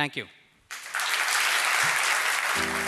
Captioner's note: applause